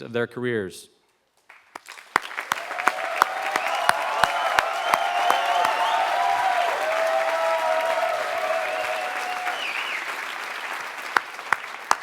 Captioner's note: applause